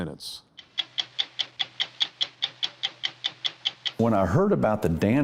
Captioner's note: clock ticking